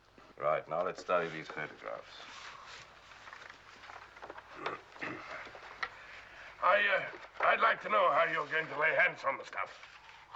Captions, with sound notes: Right. Now, let's study these photographs. [Roublot clears throat] I uh, I'd like to know how you're going to lay your hands on the stuff.